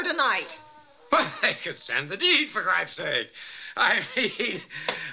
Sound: chuckles

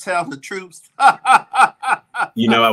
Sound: laughs

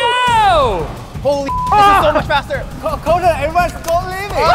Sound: beep

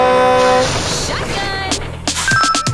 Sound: horn honking

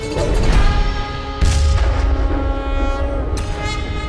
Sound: conch blows

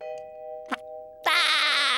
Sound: laughing

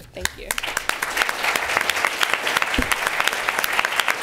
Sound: applause

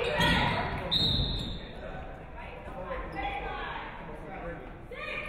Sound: referee whistles

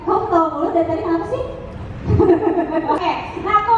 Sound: laugh

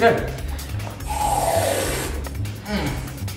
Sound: spraying

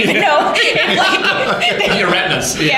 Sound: laughter

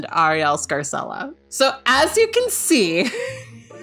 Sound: laughing

